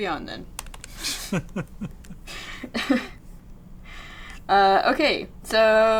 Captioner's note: laughs